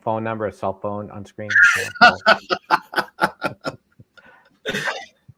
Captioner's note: laughing